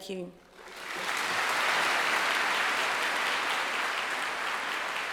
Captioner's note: congregation applauding